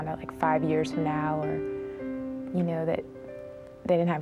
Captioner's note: none